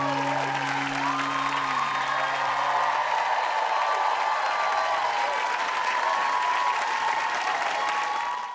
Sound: applause

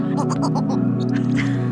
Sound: owl chatters; laughs

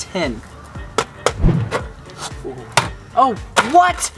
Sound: knocking

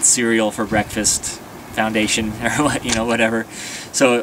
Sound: laughter

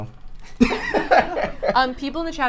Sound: all laugh

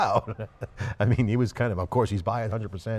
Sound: laughs

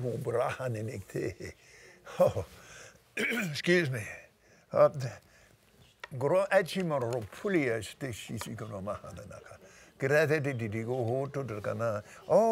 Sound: clears Throat

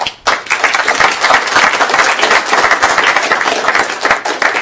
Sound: applause

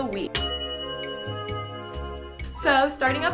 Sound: bell dinging

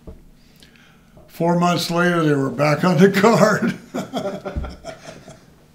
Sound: laughs

